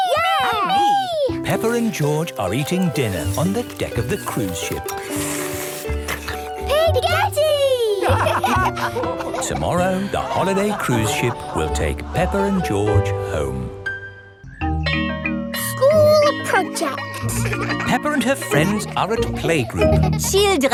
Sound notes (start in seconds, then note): 5.7 slurping; 7.5 all laugh; 14.8 school bell rings